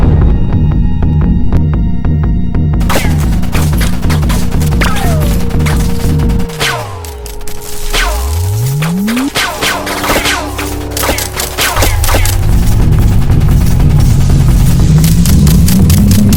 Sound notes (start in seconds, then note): 0.3 suspenseful music; 4.0 bullets clanging; 13.1 suspenseful music